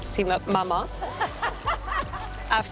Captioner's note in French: rires